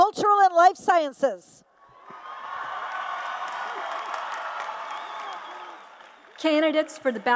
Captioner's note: applause and Cheers